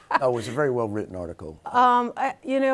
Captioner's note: laughing